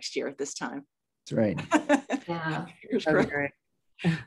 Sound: laughs

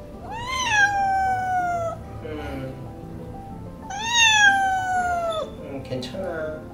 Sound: Raon continues to cry

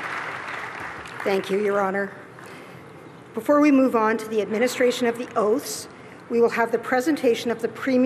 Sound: applause

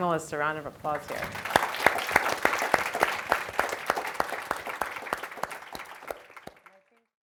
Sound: applause

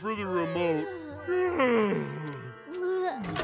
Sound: yawning

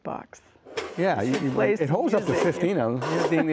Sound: metal clanking; laughing

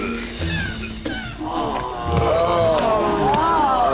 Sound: coughing; disgusted groans

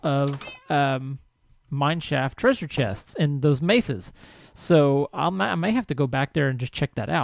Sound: cat meows

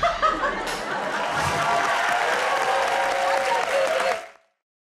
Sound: cheers and applause

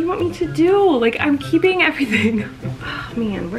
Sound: laughing

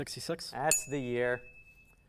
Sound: ding

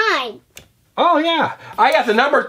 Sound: voiceover

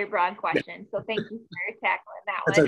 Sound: chuckles

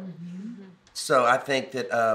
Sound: murmurs in agreement

